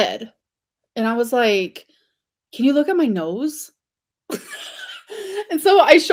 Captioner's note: laughs